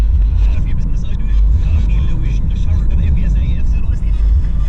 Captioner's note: radio chatter